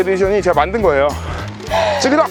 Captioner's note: laughter